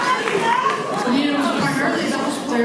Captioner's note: cheers